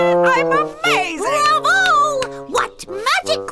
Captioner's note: laughing; clapping